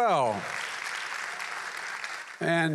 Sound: applause

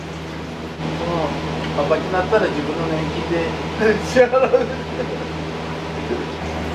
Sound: laughs

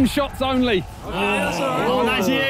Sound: players groan

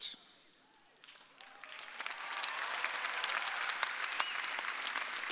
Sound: audience applauding

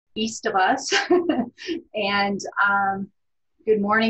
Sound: panelist laughs

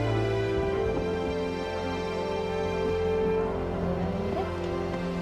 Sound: thunder rumbling

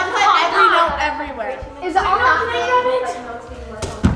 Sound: excited chatter

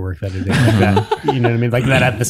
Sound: all laughing

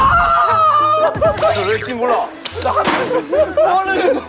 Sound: everyone burst out laughing

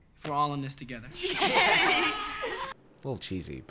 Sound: everyone laughs

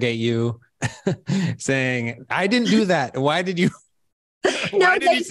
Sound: chuckles; chuckles

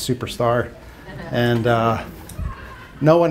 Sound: laughter

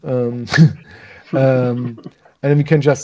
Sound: both laugh

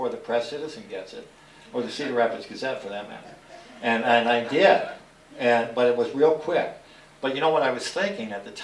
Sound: laughter

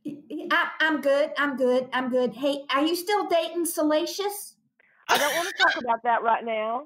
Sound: laughter

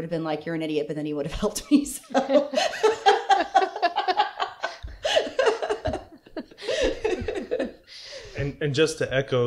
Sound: laughter

